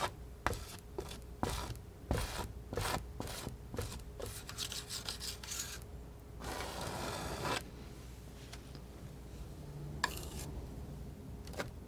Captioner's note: scratching